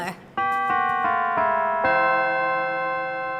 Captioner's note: bells